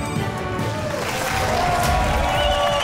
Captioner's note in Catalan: aplaudiments